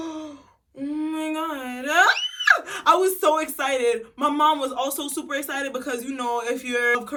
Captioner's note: dramatic gasp